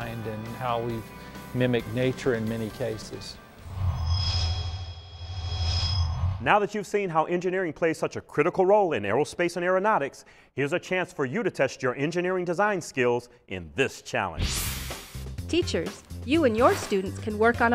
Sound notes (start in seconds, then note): 3.6 sound Effects